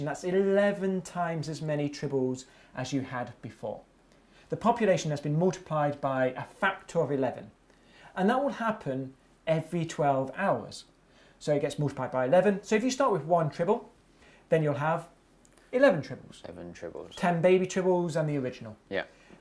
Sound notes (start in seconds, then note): none